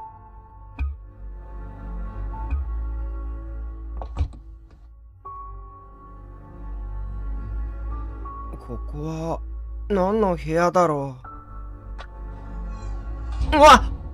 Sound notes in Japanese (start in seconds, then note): 3.9 扉の開閉音：バタン; 12.5 扉の閉じる音：キィィ･･バタン！